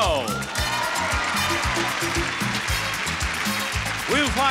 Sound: audience cheering

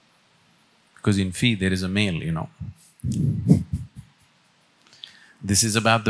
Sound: laughs

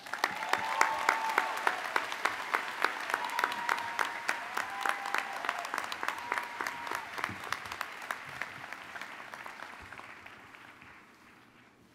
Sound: applause

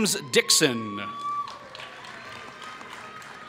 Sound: applause

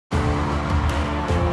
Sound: crowds cheering; motivational music

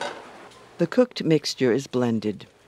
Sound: voiceover

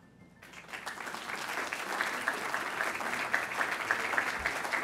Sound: crowd applauding

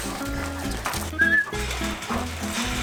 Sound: whistle

